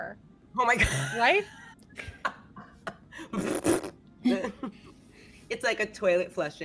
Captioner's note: laughing; laughs